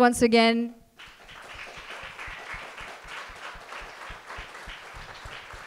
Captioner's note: audience applauds